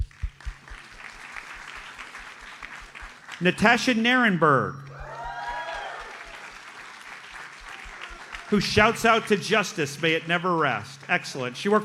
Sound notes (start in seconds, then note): 0.0 audience applauds; 4.9 audience cheers and applauds